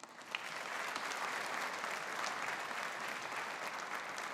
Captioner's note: audience applauding